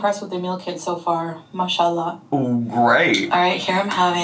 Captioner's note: speaking in foreign language